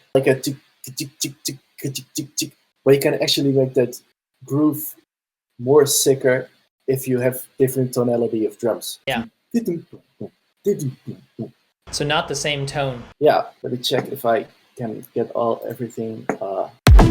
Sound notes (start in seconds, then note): 1.0 beatboxing; 9.9 beatboxing